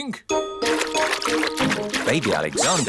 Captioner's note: splashing